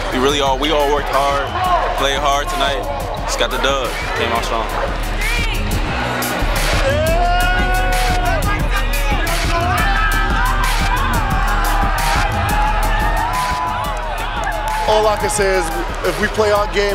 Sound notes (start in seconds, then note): 6.1 cheering; 6.1 upbeat music